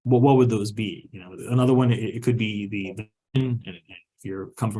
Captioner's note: audio distortion